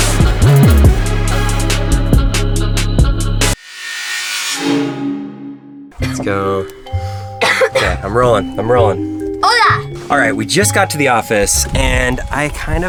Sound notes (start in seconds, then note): 7.4 coughing